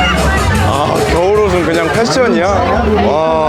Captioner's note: laughing